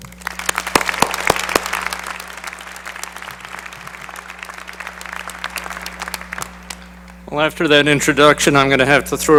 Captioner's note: applause